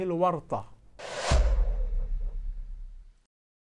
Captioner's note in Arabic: مُؤَثِّرَات صَوْتِيَّة